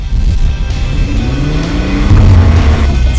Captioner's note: car revving